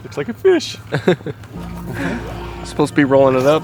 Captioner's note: cameraman laughs